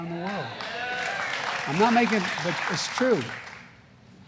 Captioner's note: applause